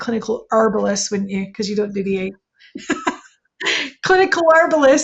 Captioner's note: laughing